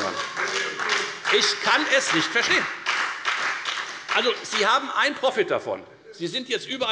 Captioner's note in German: Heiterkeit und Beifall bei der FDP und bei Abgeordneten der SPD